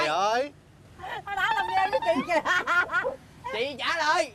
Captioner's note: laughing in despair!!!